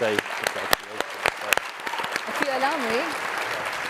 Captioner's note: cheers, applause